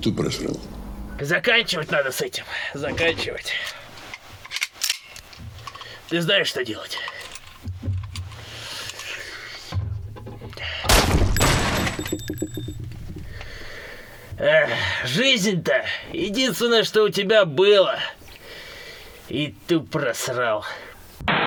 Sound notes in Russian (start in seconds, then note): 6.4 выстрел; 10.6 помехи